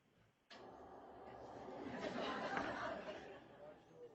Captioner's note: laughter